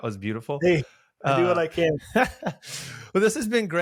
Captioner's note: chuckles